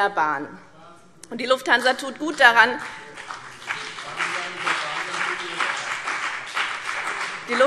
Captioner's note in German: Beifall BÜNDNIS 90/DIE GRÜNEN